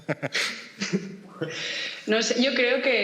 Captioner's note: laughs